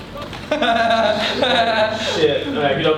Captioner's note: laughs